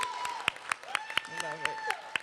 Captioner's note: cheering and applause